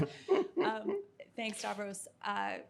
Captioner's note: chuckling